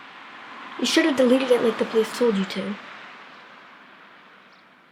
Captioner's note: car passes by outside